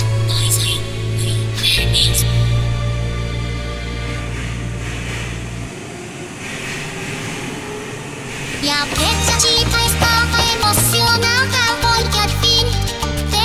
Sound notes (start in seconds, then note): 4.4 subway starting